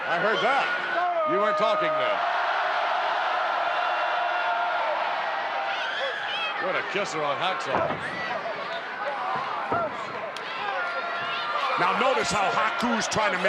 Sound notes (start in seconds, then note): 2.6 audience cheering